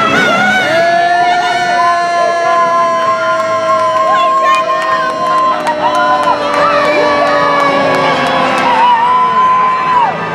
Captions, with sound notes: - Yay! (all cheering) - We did it. (actors shouting and cheering)